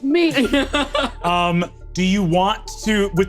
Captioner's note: laughs